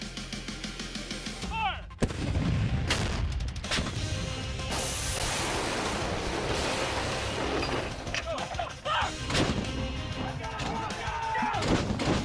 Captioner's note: artillery firing